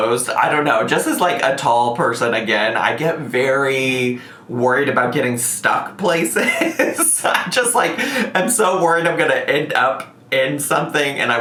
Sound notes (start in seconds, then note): 6.3 laughing